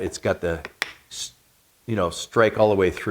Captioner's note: metal knocking